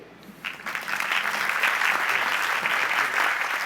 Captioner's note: applause